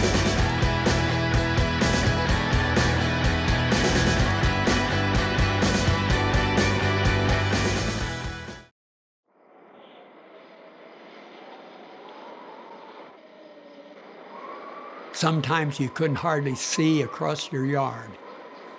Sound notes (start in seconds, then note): 0.0 upbeat music; 9.6 wind howling